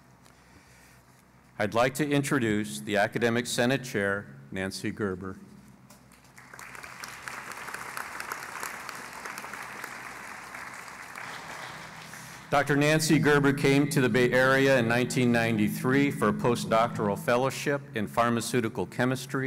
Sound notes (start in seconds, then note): 6.2 applause